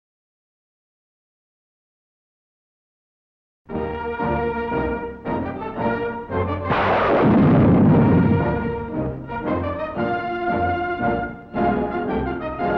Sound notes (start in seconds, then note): 4.1 exciting music; 6.6 gunshot; 9.9 exciting music